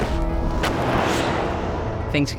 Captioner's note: kicking recovery board; woosh of truck driving